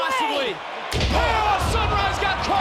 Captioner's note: mat shudders